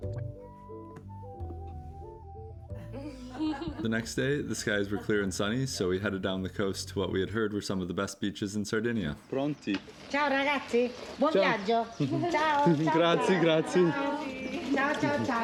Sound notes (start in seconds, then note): 8.7 speaking Italian